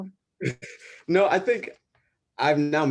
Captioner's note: chuckles